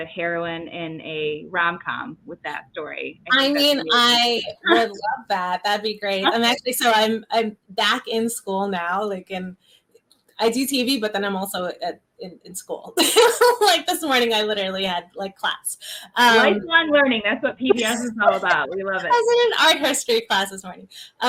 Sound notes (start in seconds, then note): 12.6 laughs